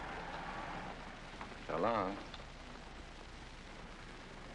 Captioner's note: engine sputtering